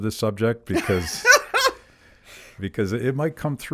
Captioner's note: laughs